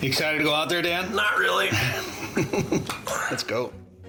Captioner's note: chuckles